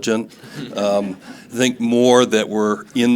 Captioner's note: audience laughing